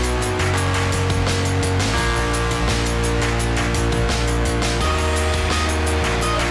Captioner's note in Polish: Aplauz